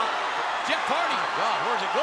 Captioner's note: crowd cheering